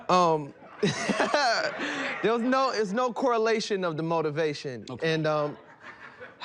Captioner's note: laughs